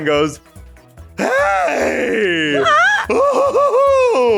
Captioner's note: screaming